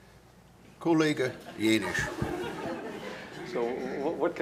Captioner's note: non-english speech